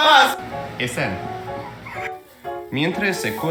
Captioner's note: laughs